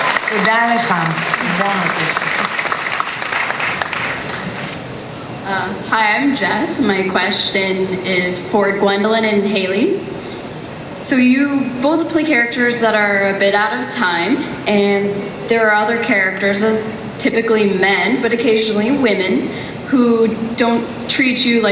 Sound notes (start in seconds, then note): 0.3 speaks in Hebrew; 6.0 voiceover